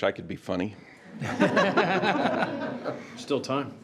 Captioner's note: all laughs